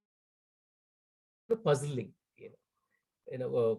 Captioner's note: audio cuts out